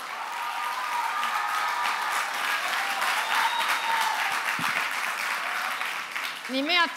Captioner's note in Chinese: 歡呼鼓掌